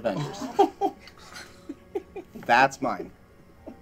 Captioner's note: laughing